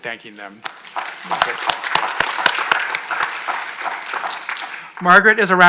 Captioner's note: audience applauding